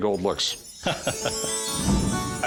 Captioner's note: laughs